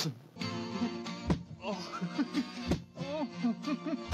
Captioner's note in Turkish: kahkaha sesi̇